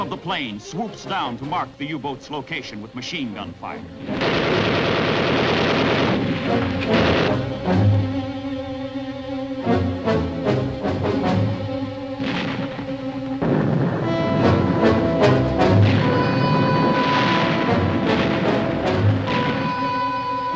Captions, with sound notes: One of the planes swoops down to mark the U-boat's location with machine gunfire. (gunfire sounds) (dramatic music) (bombs sound) (dramatic music)